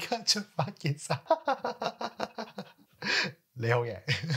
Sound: laughing

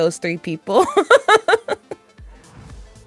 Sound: laughs

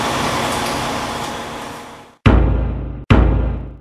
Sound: thump

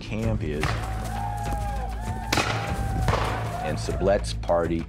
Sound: nearby whooping sounds, gunshots

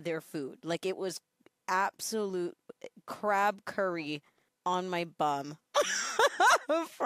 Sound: laughing

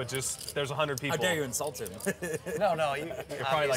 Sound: laughs

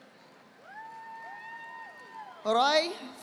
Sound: audience applauding

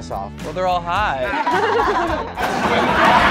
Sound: laughter

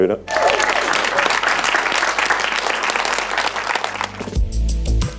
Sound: applause

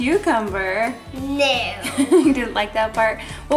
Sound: laughs

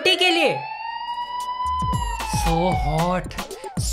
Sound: police sirens

